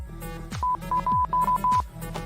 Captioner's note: beeping